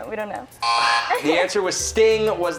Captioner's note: laughter